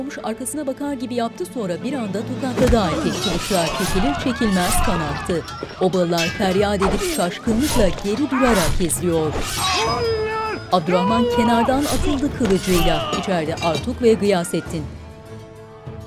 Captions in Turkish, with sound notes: (Tokat sesi) Ah! (Kılıç sesleri) (Çığlık sesleri) (Dövüş sesleri) Hainler! Ya Allah! (Dövüş sesleri)